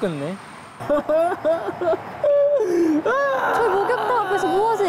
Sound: crying

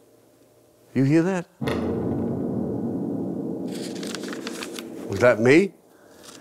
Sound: bombing continues

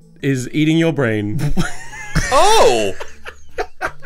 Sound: all laughs

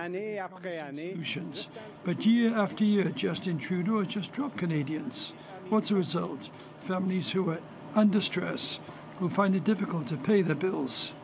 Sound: speaking French

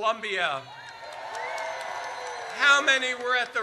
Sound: audience cheers

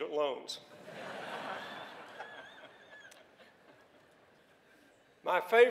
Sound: laughter

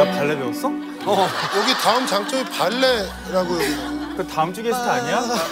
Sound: rambling nonsense

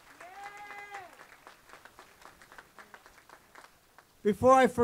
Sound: applause

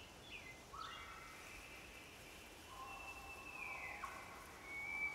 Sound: birds chirping

